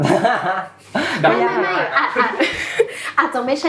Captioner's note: laughs